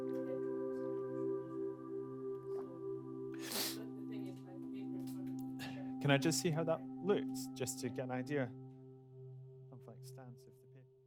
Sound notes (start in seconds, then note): 3.4 sniffs; 9.7 music and voices fade